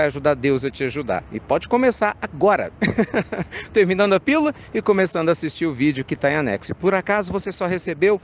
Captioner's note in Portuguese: Risos